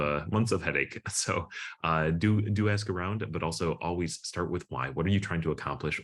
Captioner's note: chuckles